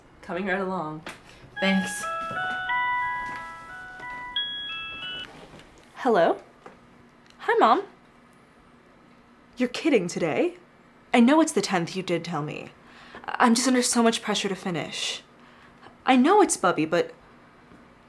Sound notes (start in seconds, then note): 1.7 rings